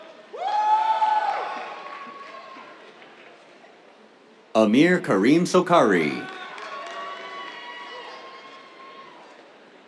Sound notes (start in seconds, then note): 0.1 cheers, applause; 5.9 cheers, applause